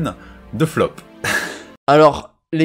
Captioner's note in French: soupir